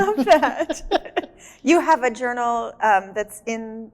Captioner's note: laughs